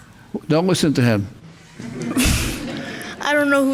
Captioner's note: group laughs